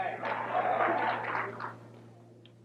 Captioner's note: audience applauding